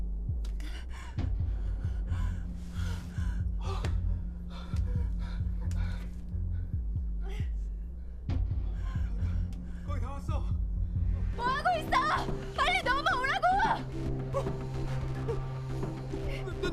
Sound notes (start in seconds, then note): 0.3 trying to breathe; 3.6 nervous breathing